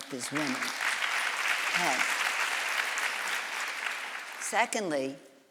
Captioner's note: audience applauds